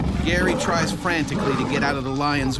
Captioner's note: voiceover